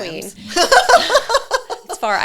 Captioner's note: laughs